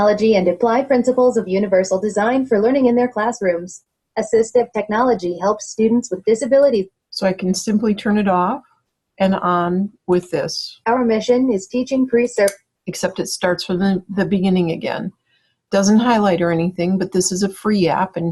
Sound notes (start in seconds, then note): 11.0 voiceover